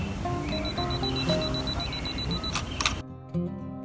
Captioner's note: camera beeping quickly; shutter snaps